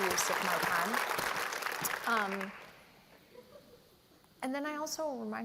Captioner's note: applause